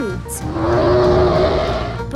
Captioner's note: loud roar